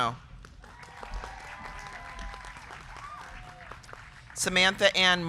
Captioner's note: crowd clapping; crowd cheering